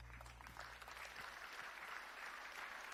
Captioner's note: applause